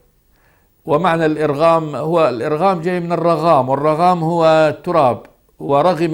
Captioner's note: in Arabic